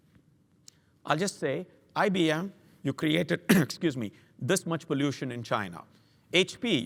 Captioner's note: cough